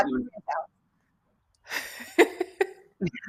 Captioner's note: laughter